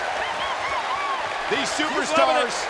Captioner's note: Summer cheering